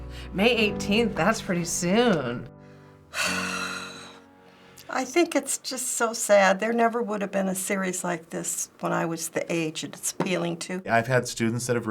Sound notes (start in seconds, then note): 3.1 sighs